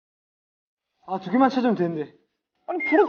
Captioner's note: Gugup